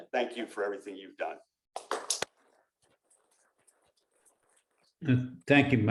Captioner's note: applause